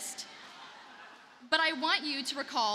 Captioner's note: audience laughing